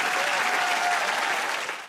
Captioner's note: cheers and applause